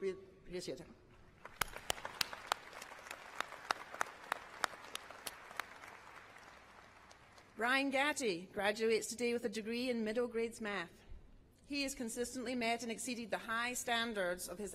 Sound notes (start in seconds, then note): 7.0 applause